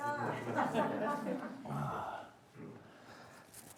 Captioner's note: audience laughing